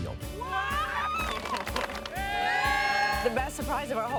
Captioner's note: cheering and clapping